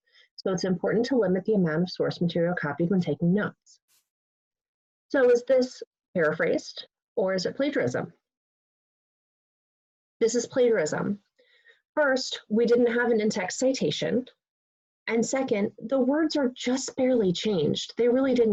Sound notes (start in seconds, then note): 8.4 pause